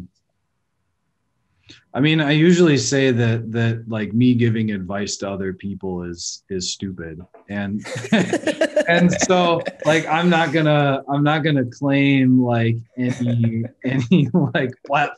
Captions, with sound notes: - I mean, I usually say that like me giving advice to other people is stupid. (laughing) I'm not gonna claim any platform of authority